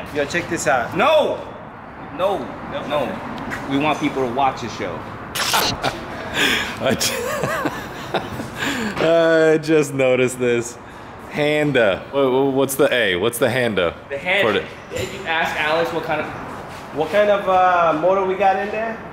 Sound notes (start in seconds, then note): 5.4 static; 5.4 laughing